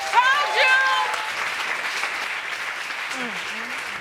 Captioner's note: crowd applauds